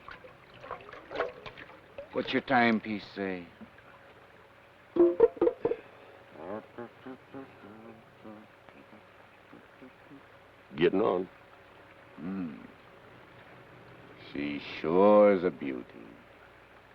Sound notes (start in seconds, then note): 0.0 water swashes; 6.3 Carney hums melodically